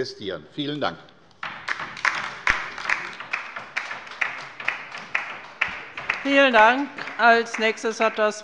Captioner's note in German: Beifall bei der LINKEN